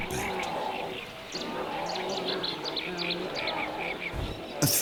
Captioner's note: pelicans squawking